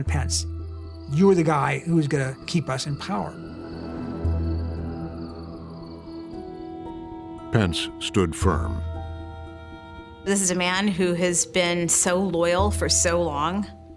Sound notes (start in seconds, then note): 3.3 siren blaring